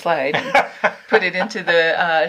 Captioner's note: laughing